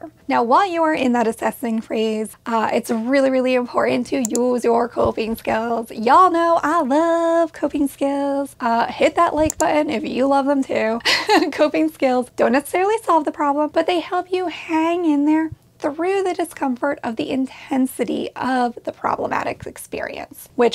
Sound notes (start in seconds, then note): 11.0 laughs